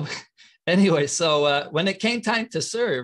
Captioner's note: chuckling